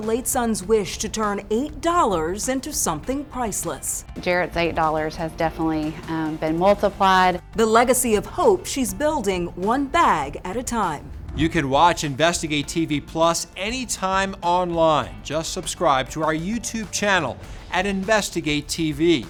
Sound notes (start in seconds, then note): 11.0 graphics whooshing